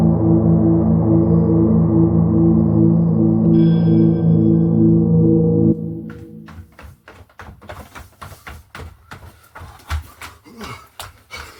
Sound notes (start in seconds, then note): 0.0 suspenseful music continues; 7.2 footsteps thumping